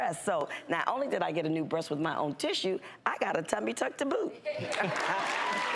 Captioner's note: audience applauds